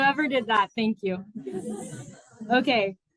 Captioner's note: laughter